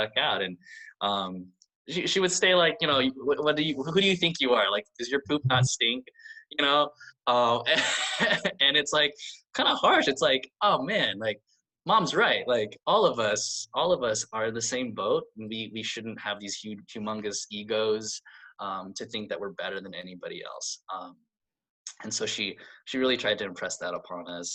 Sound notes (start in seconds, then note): 7.7 laughs